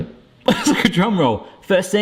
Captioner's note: laughs